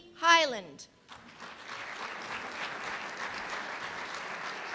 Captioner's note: applause